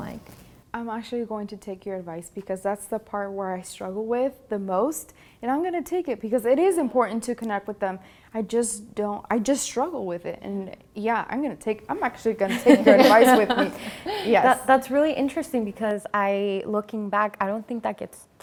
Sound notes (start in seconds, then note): 12.4 laugher